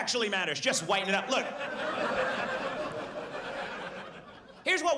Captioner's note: audience laughs